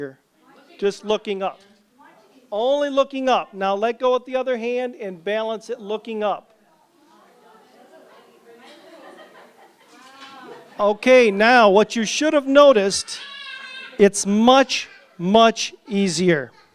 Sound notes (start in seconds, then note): 6.7 chatter and laughter